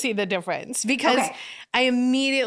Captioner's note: laughing